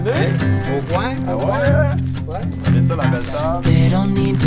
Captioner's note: chatter